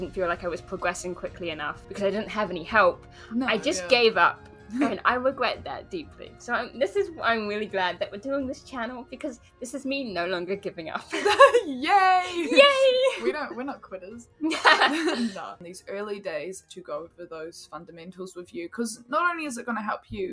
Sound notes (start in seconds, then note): 11.1 laughs; 14.4 both laugh